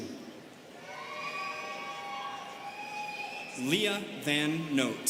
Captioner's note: students cheering